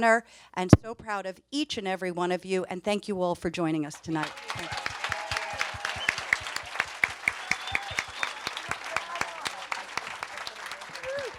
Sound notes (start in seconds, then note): 4.0 audience applauds and cheers